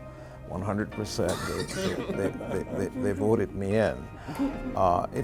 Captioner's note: laughing